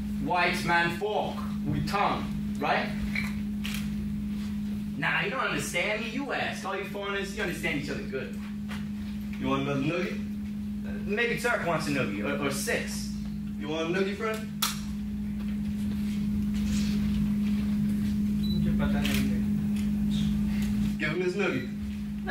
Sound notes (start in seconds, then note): 18.7 speaks in foreign language